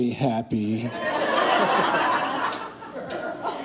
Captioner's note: laughing